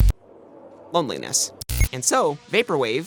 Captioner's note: glitch